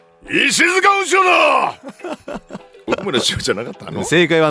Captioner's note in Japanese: 叫び声; 笑い